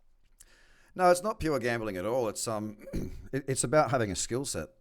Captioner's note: clears throat